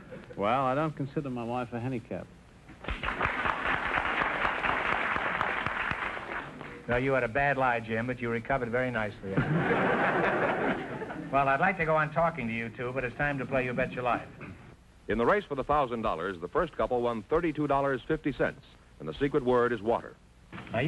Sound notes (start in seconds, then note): 2.8 applause; 9.3 audience laughter